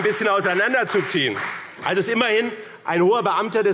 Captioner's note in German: Beifall BÜNDNIS 90/DIE GRÜNEN und CDU